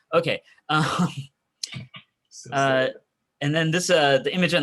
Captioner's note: chuckling